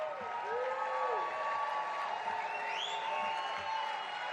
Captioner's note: audience applauding; cheering